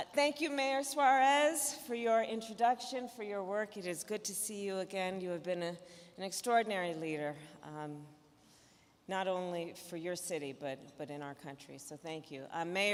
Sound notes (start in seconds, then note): none